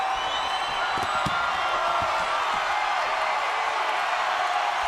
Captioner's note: crowd cheers and whistles